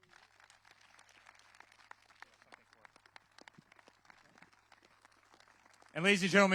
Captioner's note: applause